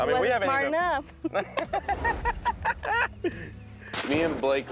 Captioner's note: laughing